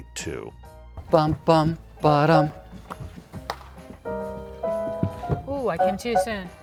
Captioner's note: jazzy music; humming